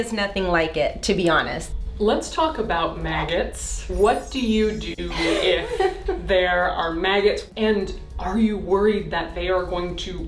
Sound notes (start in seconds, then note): 3.4 air whooshing; 3.9 chimes tinkling; 5.0 laughing